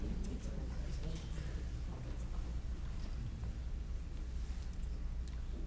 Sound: audience chattering faintly

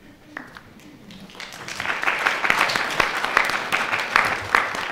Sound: audience applauding

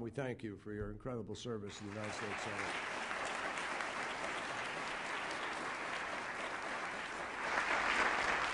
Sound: applause

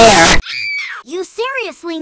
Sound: screaming

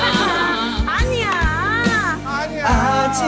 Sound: burst out in laughter

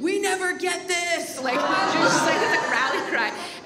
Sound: audience makes noise

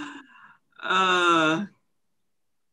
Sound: laughs

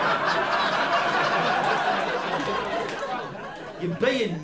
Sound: laughter

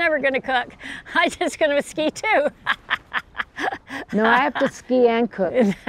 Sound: laughs

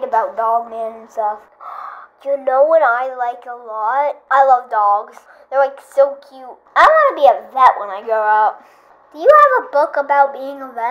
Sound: gasp

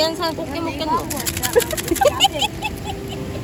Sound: laughing

